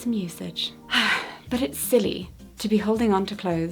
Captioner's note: sighs